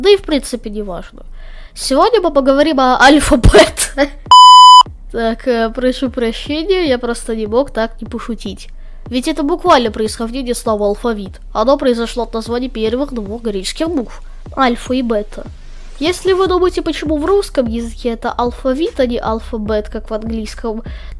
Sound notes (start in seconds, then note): 14.9 in Russian